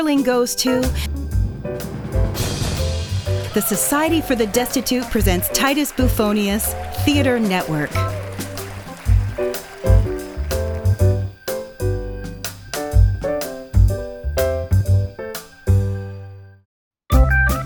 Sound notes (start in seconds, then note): 2.0 drumroll; 3.5 applause